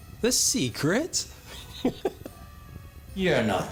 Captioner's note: laughs